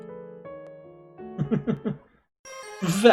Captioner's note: chuckles; friendship fanfare